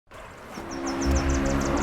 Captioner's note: sounds of cars driving on the road & Car horns